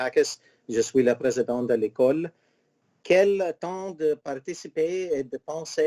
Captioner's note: speaking in foreign language